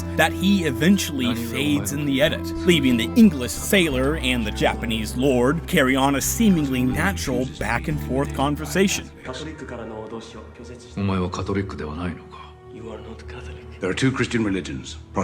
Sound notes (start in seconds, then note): 9.5 Alvito speaking Japanese